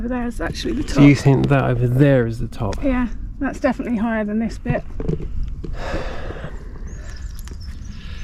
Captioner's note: sighs